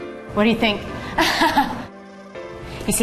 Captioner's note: laughing